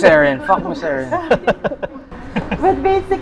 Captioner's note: laughs